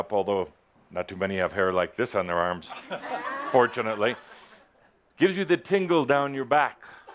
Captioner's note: laughter